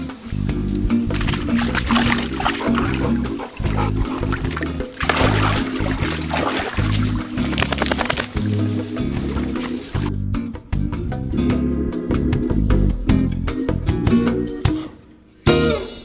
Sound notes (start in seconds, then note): 1.4 water splashing; 10.1 gentle music